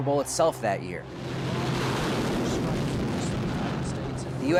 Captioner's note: engines roaring